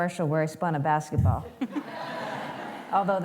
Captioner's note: laughter